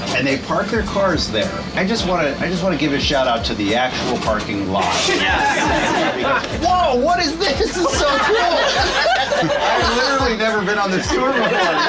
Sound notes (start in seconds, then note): 4.9 group laughing; 9.1 group laughing